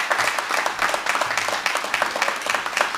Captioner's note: applause